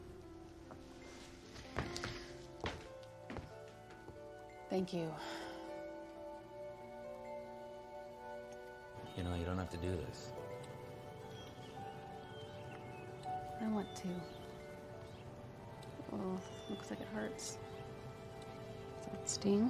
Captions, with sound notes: Thank you. [pouring] I want to. Oh, it looks like it hurts. Does that ststing?